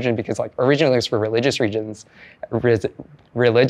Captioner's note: stutters